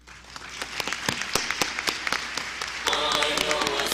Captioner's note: applause